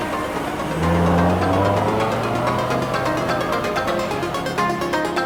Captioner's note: car engine roaring